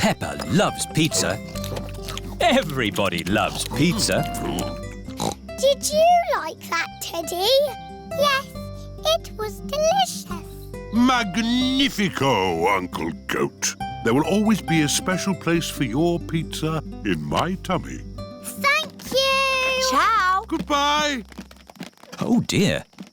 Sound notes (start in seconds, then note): 5.5 snorts